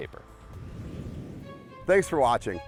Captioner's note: whooshing